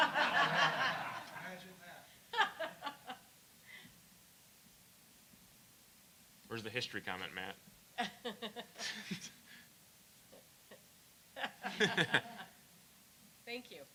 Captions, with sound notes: [ LAUGHTER ] >> WHERE IS THE HISTORY